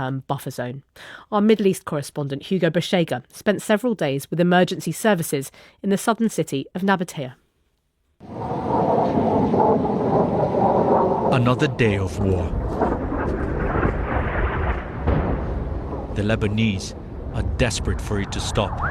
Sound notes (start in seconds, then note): 10.5 bomb exploding